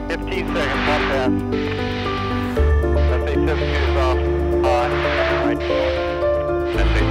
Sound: radio chatter

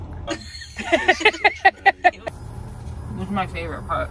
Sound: both laughing

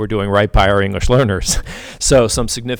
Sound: chuckles

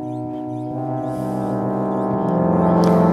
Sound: low tones sound

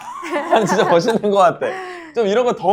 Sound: chuckles

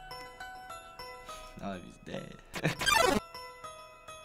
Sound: chuckling

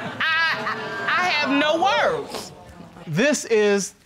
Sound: audience exclaiming

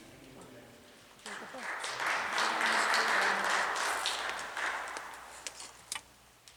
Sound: applause

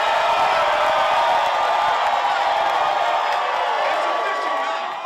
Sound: crowd cheering

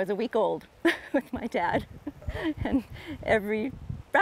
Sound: chuckles

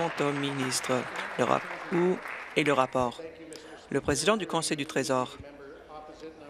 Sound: applause

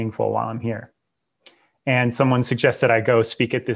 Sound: clicks tongue

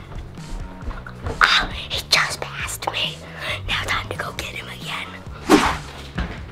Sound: whispering

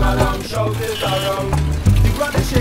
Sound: car horn honks

